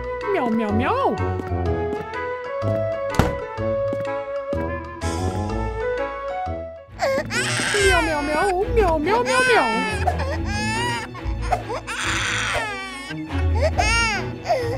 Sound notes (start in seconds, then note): 8.2 baby Cries; 12.8 baby Cries